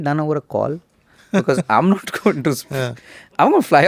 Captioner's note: laughs